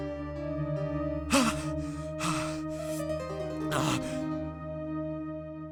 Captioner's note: man panting